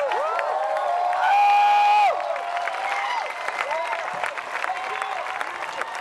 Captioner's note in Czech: Potlesk